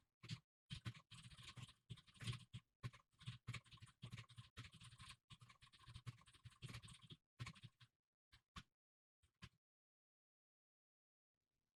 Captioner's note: typing sounds